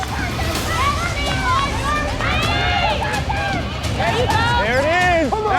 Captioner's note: everyone shouts